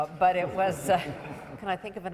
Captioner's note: audience members laughing